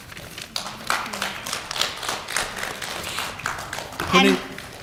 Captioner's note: applause